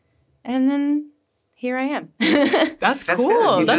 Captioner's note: laughs